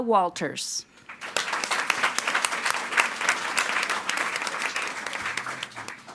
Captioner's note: audience applauding